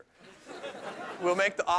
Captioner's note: laughter